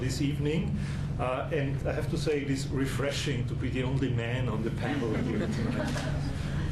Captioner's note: laughter